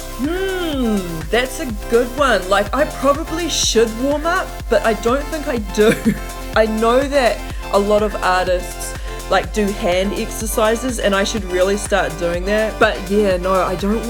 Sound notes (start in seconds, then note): 5.8 laughs